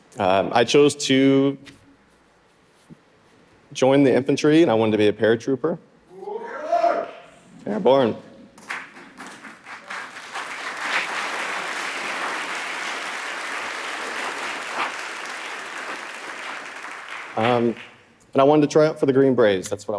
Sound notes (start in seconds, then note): 7.2 audience member shouting; 9.9 audience applauding